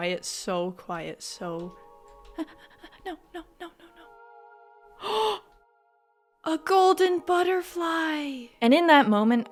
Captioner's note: gasp